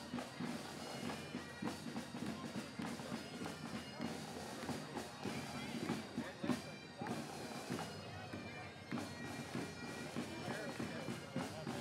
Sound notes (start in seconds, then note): none